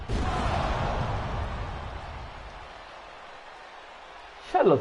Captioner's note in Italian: Applauso